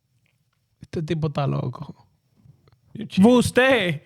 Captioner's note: speaking In Foreign Language